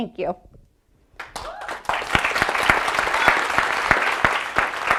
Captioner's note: audience applauding